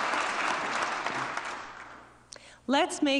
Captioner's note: applause